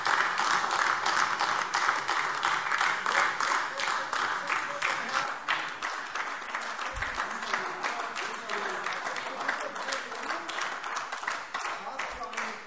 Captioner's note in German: Beifall : Was für ein Geschwalle!